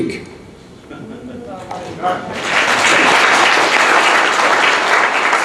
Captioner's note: audience applauds